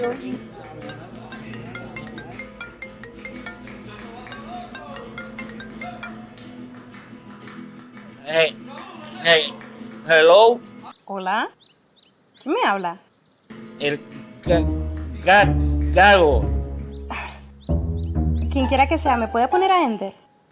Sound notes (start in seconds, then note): 0.0 cell phone ringing; 7.2 stuttering; 13.6 stuttering; 17.0 panting